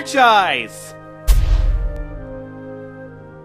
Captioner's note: sonic rushes